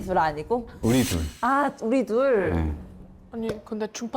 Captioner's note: confirmation kill shot sound effect